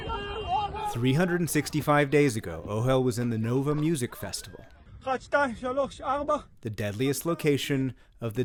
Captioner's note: voice-over